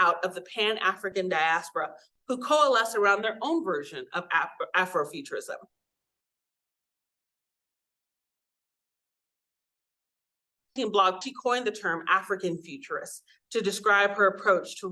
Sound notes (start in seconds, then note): 6.0 audio cuts out